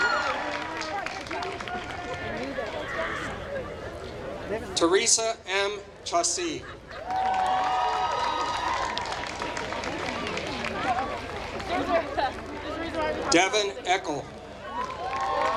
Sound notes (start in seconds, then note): 7.0 applause